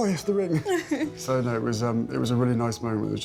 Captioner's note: Meghan laughs